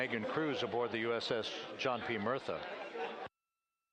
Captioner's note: laughter